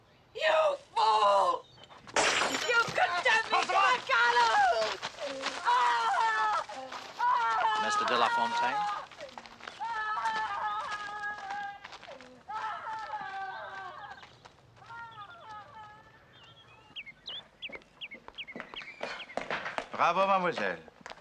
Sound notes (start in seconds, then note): 2.0 Kaca pecah; 5.1 Berteriak